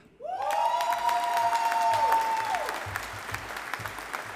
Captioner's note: audience applauding